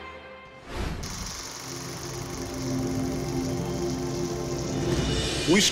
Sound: projector rattling

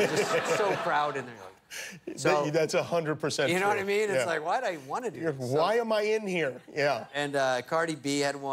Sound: laughter

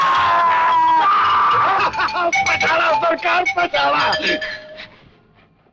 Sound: laughs

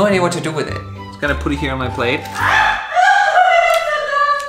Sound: screams from the kitchen

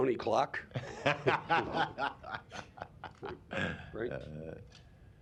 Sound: laughter

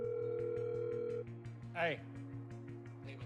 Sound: line trills

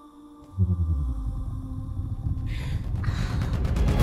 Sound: happy growls

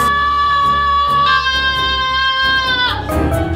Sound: buzzing; yelling

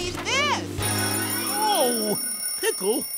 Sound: alarm ringing

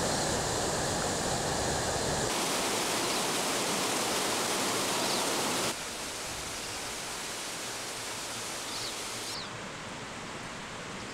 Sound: water rushing

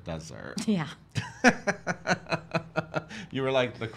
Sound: laughs

